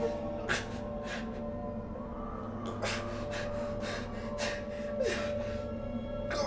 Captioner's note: intensifying music; softly sobbing